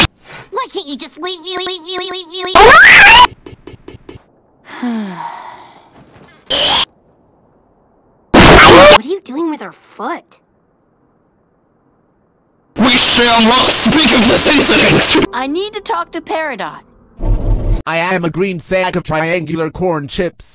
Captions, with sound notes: Why can't you just leavealeavealeave me A LO N E !!!! [weird bubble noises] [sigh] EEEEEEEEEEE [SOUNDS OF DEATH] What are you doing with her foot? WE SHALL NOT SPEAK OF THIS INCIDENT I need to talk to Peridot. I am a green sack of triangular corn chips.